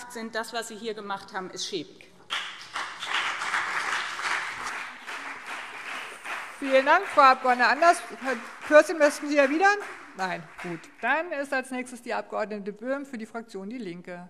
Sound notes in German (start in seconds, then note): 2.2 Beifall BÜNDNIS 90/DIE GRÜNEN und CDU